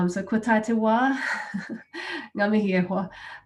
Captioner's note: laughing